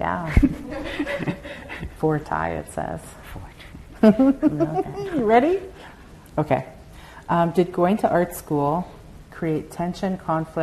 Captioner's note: laughter; softly laughing